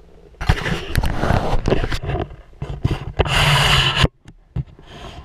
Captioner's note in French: GRINCEMENT DE PENTURE DE GoPro